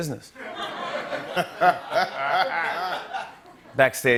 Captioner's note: laughter